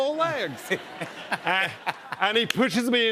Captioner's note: laughter